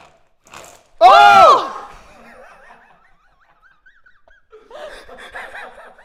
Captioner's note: Tyler and Safiya yelling loudly; laughing quietly